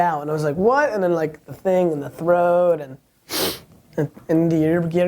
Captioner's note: sniffs